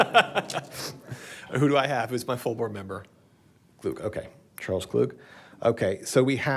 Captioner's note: laughter